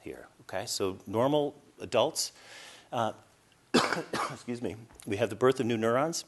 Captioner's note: coughs